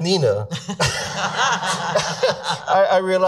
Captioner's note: laughing